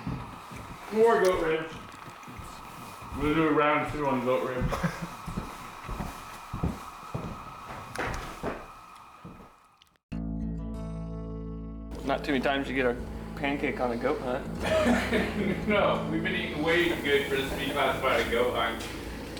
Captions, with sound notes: MORE GOAT RIBS, MORE GOAT RIBS. WE'LL DO ROUND TWO ON GOAT RIBS. - NOT TOO MANY TIMES YOU GET A PANCAKE ON A GOAT HUNT. [LAUGHTER] - NO, WE'VE BEEN EATING WAY GOOD FOR THIS TO BE CLASSIFIED